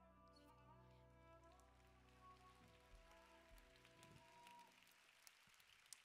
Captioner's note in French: Applaudissements